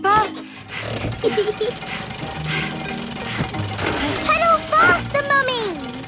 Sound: mummy pig panting; peppa laughing

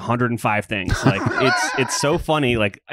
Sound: laughs

